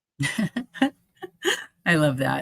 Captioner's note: chuckling